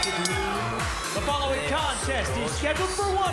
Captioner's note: bell ringing